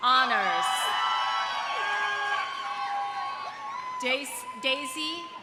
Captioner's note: audience cheering; audience applauding